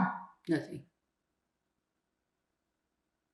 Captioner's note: pauses 4 seconds